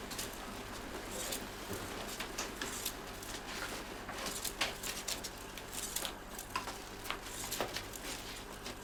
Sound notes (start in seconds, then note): 4.3 reels clicking continues